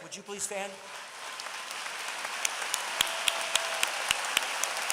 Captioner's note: applause